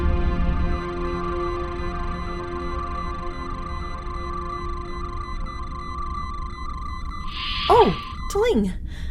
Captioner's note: quiet music; medical scanner sounds